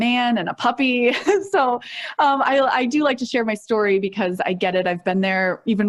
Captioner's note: chuckles